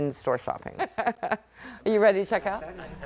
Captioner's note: chuckling